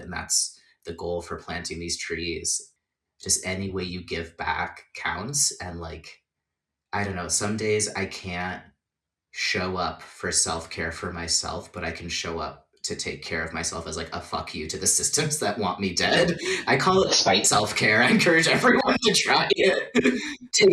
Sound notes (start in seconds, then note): 16.3 laughing